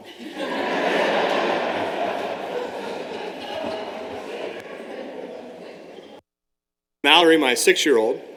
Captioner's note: laughter